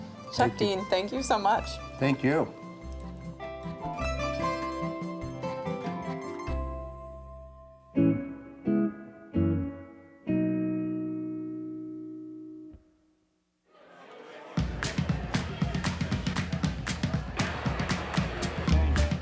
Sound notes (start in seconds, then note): 2.8 italian-style instrumental; 8.7 relaxed instrumental; 14.3 chattering; 14.6 upbeat instrumental; 18.9 jaunty instrumental